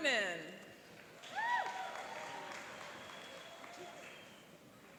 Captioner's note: cheering and applauding